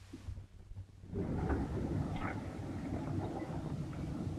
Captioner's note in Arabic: هدير المحرك